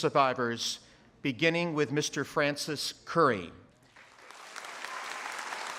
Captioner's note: applause